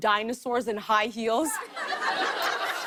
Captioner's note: laughter